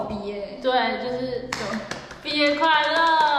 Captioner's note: clap!